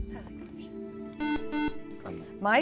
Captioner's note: beep